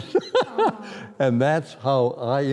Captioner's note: laughter